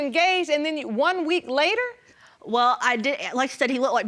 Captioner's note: stammering